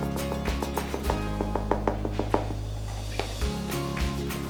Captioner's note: container tapping